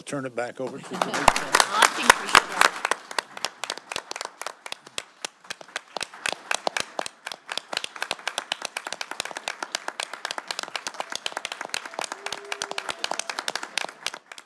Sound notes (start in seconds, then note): 6.9 applause